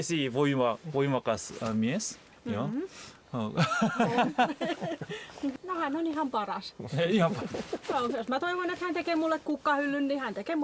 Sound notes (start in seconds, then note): 3.5 laughter